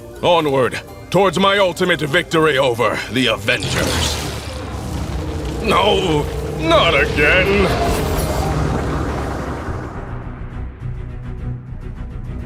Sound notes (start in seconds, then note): 3.5 electrical zapping